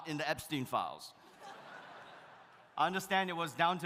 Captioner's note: audience laughs